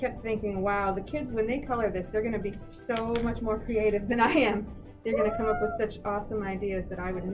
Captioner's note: laughs